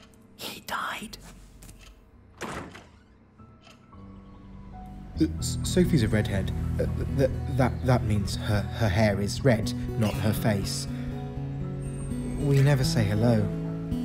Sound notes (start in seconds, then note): 0.0 blinds snapping; 0.2 whispered; 2.3 door opening; 5.3 stammering